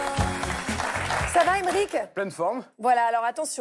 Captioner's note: applause